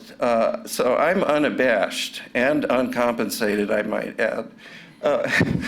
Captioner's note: laughter